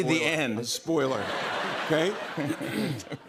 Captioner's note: laughter